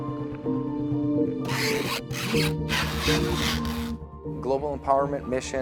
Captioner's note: tape stretching